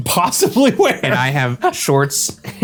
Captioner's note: laughing